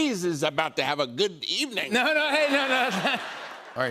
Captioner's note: laughter